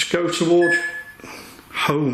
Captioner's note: beeping